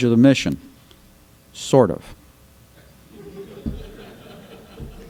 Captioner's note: laughter